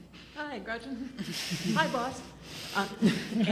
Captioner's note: laughs